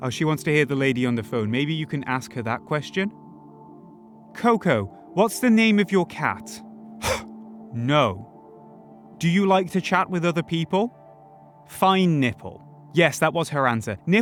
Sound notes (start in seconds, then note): 7.0 huff